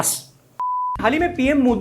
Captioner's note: beep